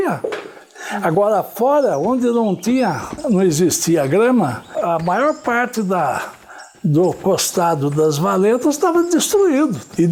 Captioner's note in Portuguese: som de pássaros